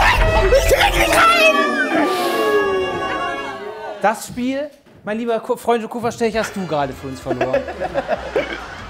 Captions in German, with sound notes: Ich krieg ihn nicht rein! (Jubel) Das Spiel, mein lieber Freunde und Kupferstecher, hast du grade für uns verloren. (Lachen)